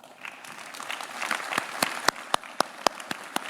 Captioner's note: claps